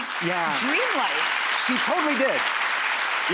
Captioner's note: audience applauds